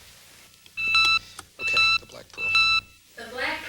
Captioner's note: beep beep beep